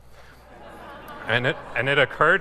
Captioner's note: laughing